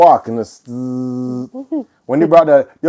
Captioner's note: sharepening noise